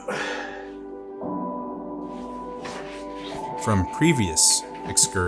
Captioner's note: yawns